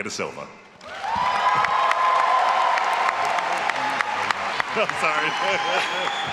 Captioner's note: all applauding and cheering